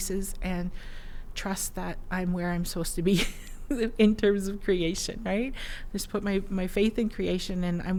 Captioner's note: laughs